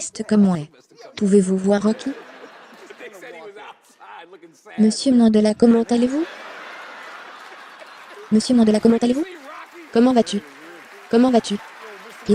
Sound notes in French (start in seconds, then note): 5.7 Denzel et le public rient